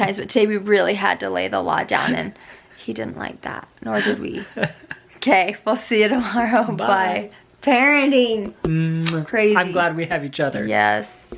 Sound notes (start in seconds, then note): 5.1 laughing